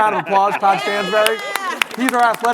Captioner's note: everyone clapping